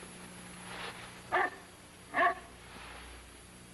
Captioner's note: barking